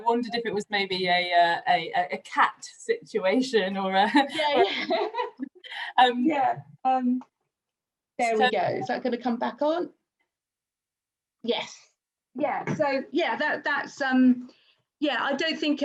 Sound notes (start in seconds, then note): 4.3 laughs; 6.8 laughs